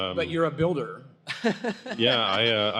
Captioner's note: laughs